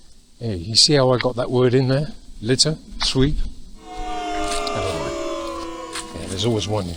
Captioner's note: booo